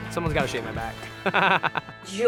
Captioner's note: laughing